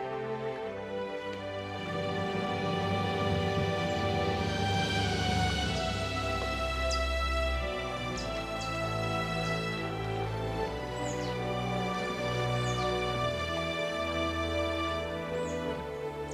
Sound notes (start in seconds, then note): 0.9 peaceful music; 6.9 birds chirping; 12.9 peaceful music